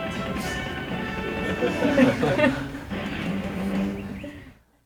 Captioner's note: laughter